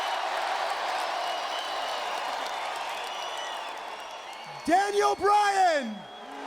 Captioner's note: crowd cheering